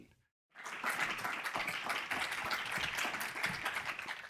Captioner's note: audience applauds